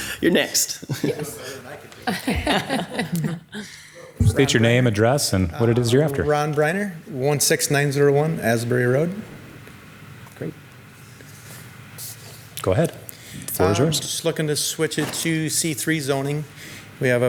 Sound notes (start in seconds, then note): 2.0 panel laughing